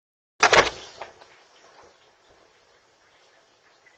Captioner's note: door opens and closes